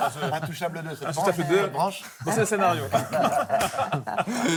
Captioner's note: laughter